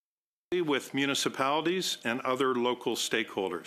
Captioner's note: speaking in French